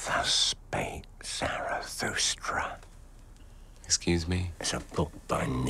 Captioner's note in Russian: Шепчет